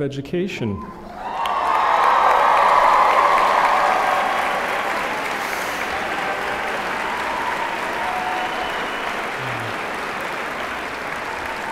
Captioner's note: cheering